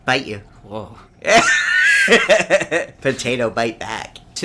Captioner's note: laughs